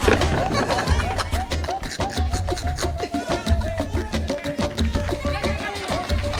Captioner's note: laughs